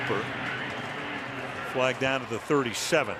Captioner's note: pa announcement